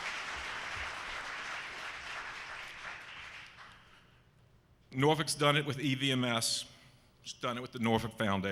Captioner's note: applause